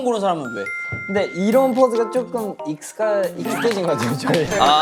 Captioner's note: laughing